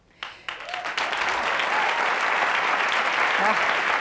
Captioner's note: applause